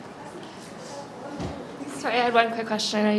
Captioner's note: faint voice